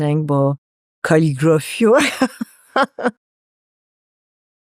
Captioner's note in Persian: خنده